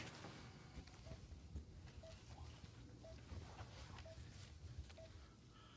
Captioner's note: heart monitor beeps rhythmically